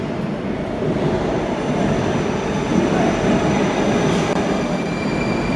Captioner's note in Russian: прибытие другого поезда на станцию